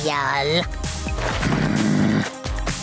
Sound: groaning

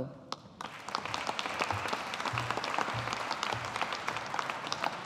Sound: audience applauding

